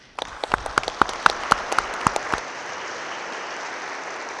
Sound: audience claps

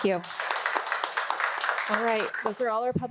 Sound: audience applauding

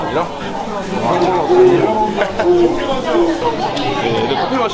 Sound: silent laughter

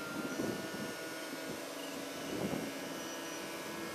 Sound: wind blows

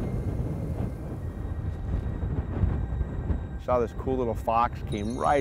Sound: wind gusting

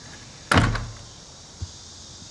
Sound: door thuds

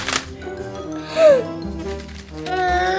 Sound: gasp

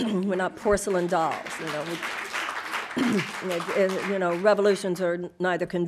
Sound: audience applauding

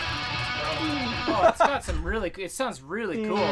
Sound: laughs

